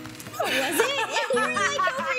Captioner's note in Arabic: يضحك